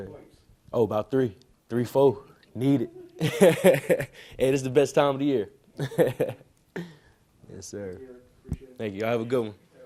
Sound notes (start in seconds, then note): 3.2 laughs